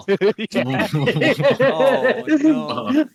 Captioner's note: laughter